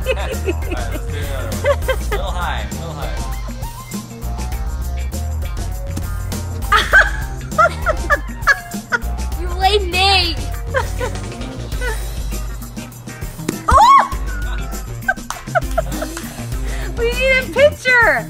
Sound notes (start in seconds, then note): 0.0 everyone laughs; 6.6 laughs; 13.6 mom yelps